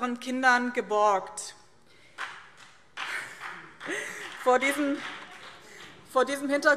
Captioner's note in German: Vereinzelter Beifall BÜNDNIS 90/DIE GRÜNEN